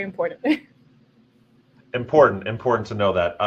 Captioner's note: laughing